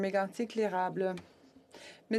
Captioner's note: speaking French